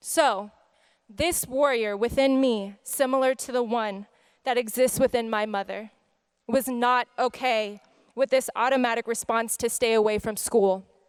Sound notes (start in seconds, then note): none